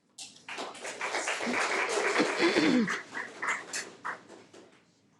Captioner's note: audience applauding